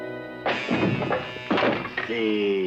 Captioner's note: trunk crashes; groaning